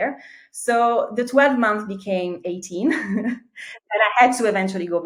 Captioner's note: chuckles